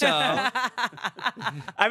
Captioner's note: everyone laughs